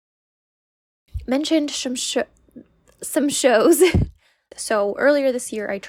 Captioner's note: laugh